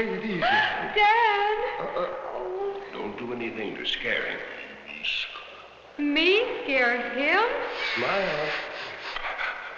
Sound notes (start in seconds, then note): 5.4 speaking in a foreign language; 7.8 sniffing